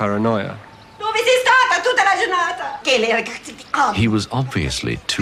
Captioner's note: speaking italian